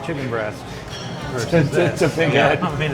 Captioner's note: laughing